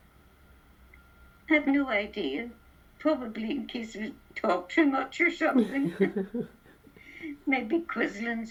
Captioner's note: both laugh